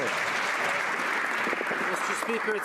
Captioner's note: some Applause